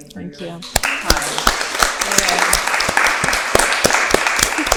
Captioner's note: everyone applauding